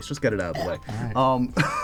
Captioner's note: hocking noises; laughs